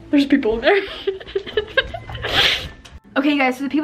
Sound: laughs

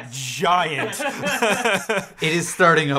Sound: all laughing

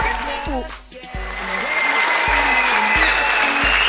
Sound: people cheers again

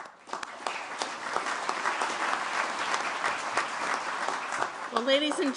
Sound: applause

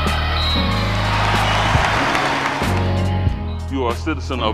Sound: women yell; crowd cheers; whistle blows

